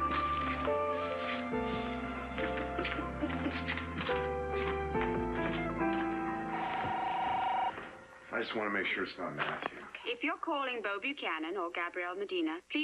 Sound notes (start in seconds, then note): 2.6 Gabrielle giggles; 6.4 phone rings